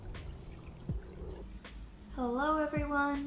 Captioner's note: birds chirp; water trickles in the stream